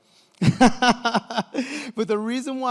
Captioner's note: laughs